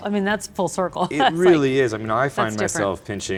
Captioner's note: laughing